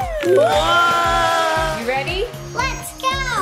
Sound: everyone cheering; upbeat music

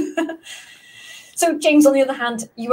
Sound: laughs

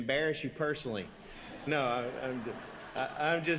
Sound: congregation laughing

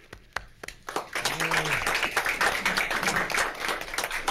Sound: applauding

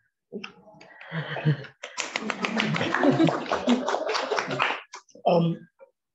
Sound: applause

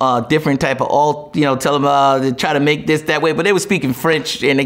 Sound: stammers

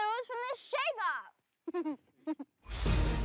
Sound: laughs

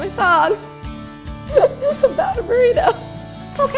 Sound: laughing

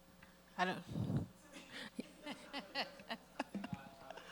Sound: all laughing

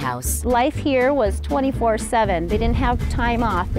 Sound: female voice

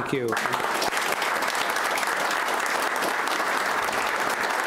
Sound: audience applauds

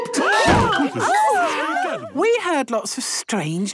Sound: all gasping

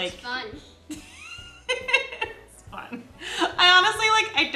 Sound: laughing

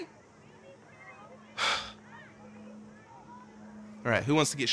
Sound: sighs

